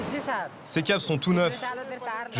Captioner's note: foreign language spoken